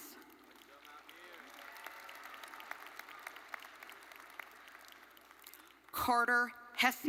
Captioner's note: audience cheering and applauding